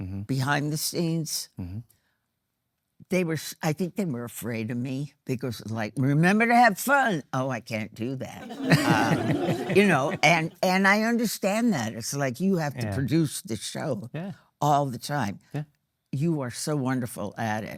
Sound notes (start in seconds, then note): 10.2 audience laughing